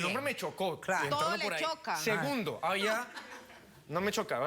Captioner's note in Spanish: risas